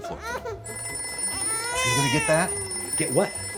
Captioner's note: phone rings